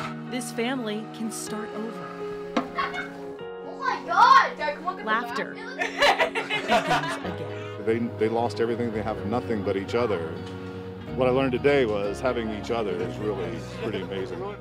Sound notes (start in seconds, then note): 5.6 laughing